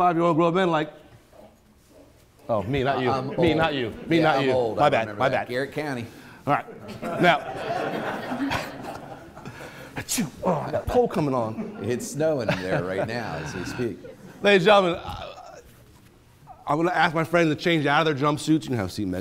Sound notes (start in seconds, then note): 6.5 attendees laughing; 10.0 sneezes